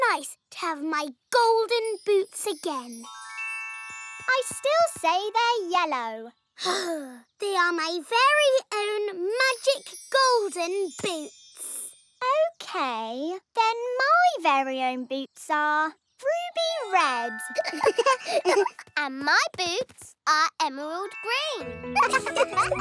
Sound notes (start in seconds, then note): 7.4 sighs in relief; 17.5 giggling; 21.9 all laughing